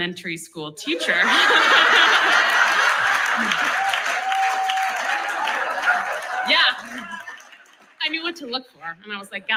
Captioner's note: laughs